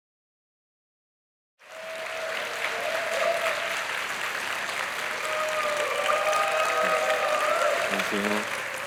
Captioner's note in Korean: 박수와 환호